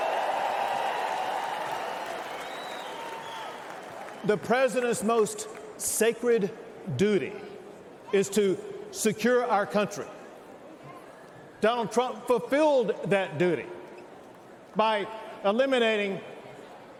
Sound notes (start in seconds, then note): 0.0 cheers and applause